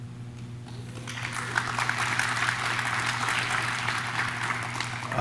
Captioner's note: audience claps